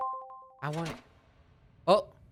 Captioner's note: metal clang